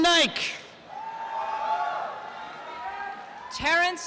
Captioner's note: applause and cheering